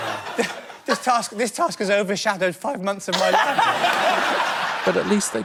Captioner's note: laugher